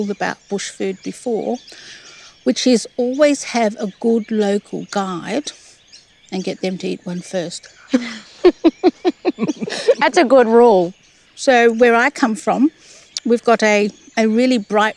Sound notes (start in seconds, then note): 7.8 laughing